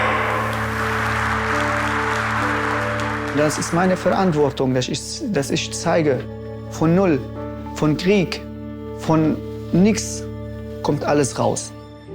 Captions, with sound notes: (applause) It is my responsibility to show that from zero, from war, from nothing... you can do anything.